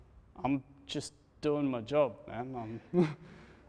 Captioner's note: chuckles